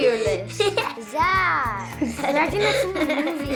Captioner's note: giggling